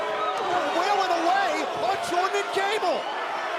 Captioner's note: crowd cheering